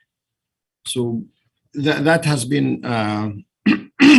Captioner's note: clears throat